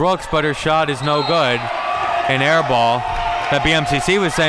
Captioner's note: whistle blows